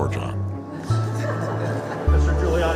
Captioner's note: laughter